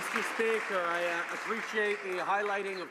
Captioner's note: some Applause